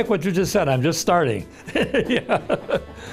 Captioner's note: chuckling